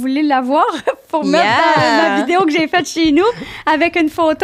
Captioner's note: in french